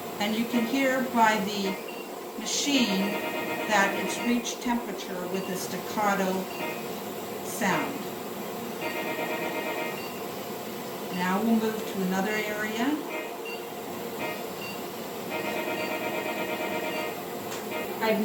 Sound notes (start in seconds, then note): 0.0 medical device beeps; 8.8 medical device beeps; 15.3 medical device beeps